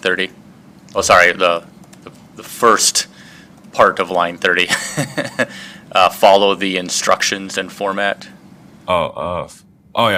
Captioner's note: laugh